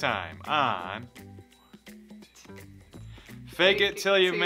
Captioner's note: whispers